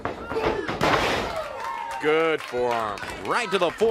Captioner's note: crowd cheering